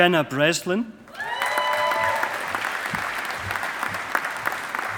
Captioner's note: audience applauding